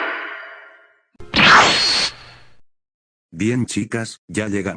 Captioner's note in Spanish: efecto de tele transportación